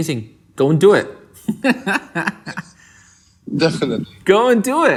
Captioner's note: laughs